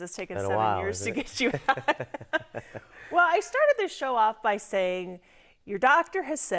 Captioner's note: laughing